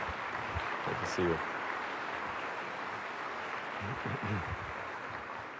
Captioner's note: applause